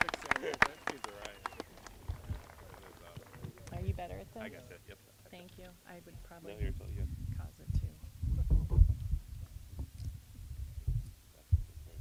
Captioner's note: applause